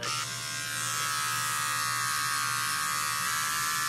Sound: razor buzzing

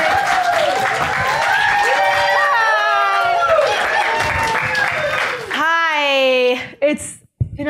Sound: applause

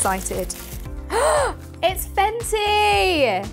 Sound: gasps

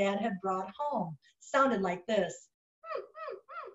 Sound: imitates puppy whining

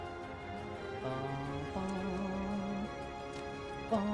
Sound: humming

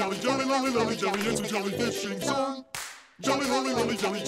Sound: clap

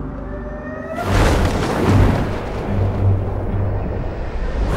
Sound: dramatic piano music; gliders whooshing

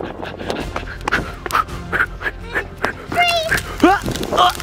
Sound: blowing out short sharp breaths

